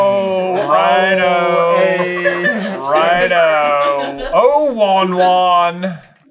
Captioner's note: team laughter